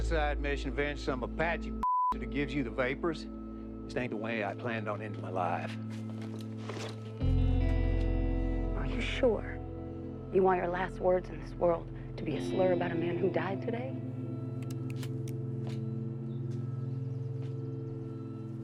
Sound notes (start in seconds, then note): 14.6 trigger clicks